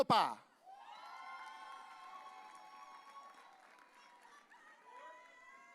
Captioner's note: audience cheering